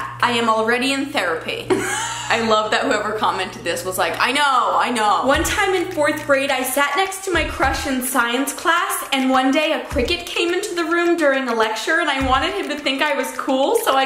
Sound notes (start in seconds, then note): 1.8 laughing